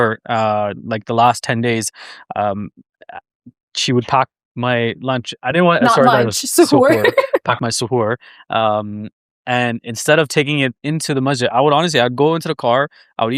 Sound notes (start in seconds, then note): 5.8 laughing